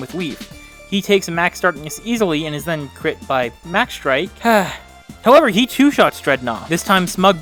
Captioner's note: sigh